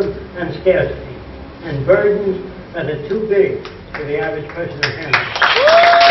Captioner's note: applause